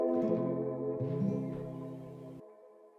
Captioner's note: game over sound effect